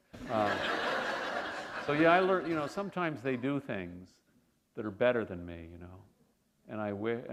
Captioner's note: laughter